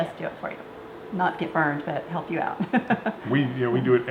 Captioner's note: laughs